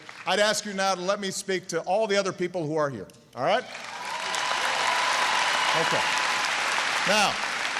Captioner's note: applause